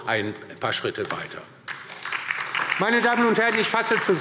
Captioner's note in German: Beifall DIE LINKE und SPD